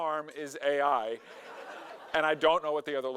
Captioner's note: audience laughing